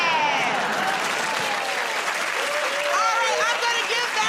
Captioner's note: cheers and applause